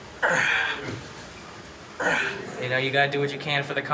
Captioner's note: grunting